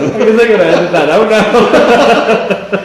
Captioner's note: laughing